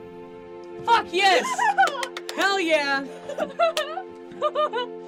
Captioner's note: giggles and claps